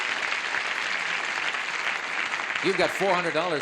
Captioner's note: applause